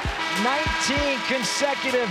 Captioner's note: buzzer